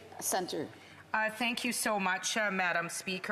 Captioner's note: speaking French